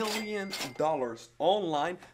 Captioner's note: cash register ringing